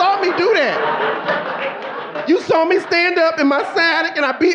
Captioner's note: audience laughing